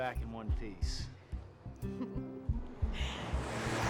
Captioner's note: chuckles